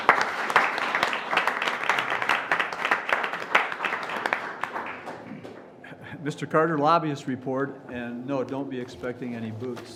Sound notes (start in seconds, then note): 2.6 applause